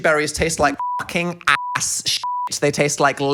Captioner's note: beep